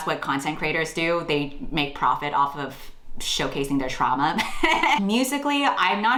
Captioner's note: laughs